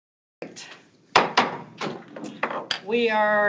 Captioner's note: gavel thuds